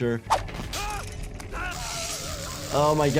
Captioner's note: victim screaming